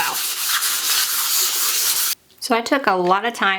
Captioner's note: sandpaper scratching